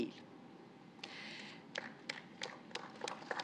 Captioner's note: applause